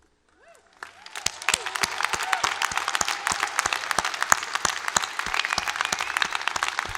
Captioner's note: applause